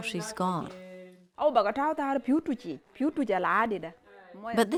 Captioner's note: speaking in sudanese language